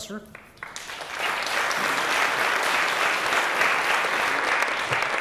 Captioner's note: applause